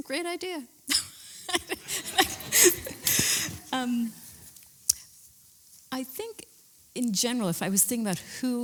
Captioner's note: laughs